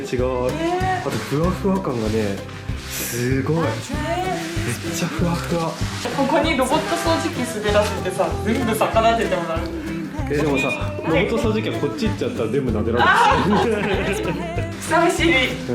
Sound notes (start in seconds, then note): 12.8 laugh